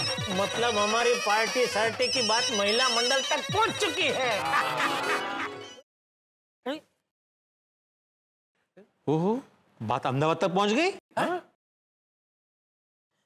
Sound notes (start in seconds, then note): 6.2 phone ringing